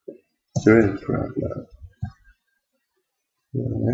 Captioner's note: mumbling to self